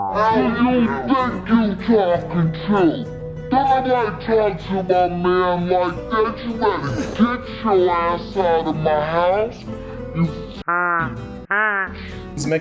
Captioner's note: quacking